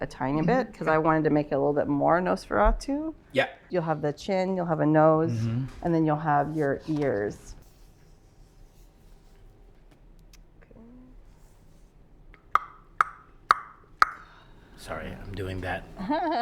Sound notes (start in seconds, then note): 11.7 clicking tongue; 16.0 laughs